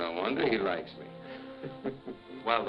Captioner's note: chuckles